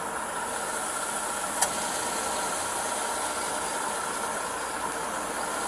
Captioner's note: car engine starting